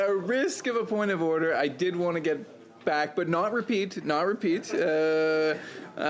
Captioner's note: laughter